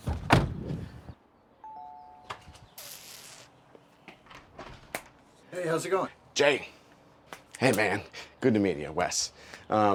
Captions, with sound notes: (doorbell rings) - Hey, how's it going? - Jay. Hey man. Good to meet you. I'm Wes.